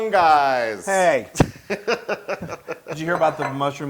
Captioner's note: laugh